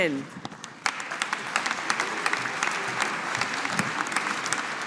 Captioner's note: audience applauding